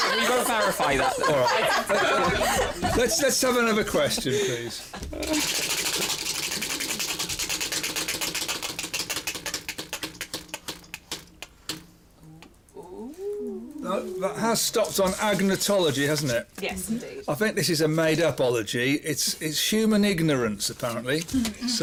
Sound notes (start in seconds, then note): 0.0 laughter; 5.3 wheel spinning